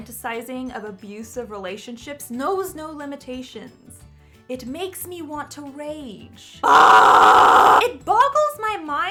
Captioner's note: screams